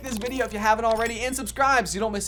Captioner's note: bell dinging